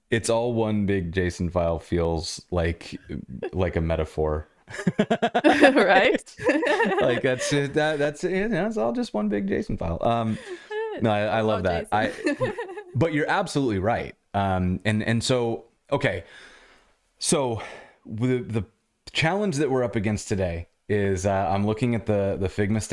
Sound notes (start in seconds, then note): 4.7 laughter